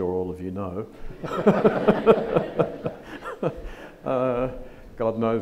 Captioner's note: audience laughs